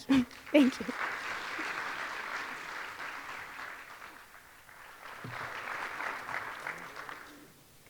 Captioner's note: audience clapping